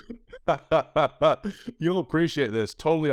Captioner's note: chuckles